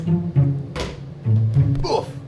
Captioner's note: hitting; grunting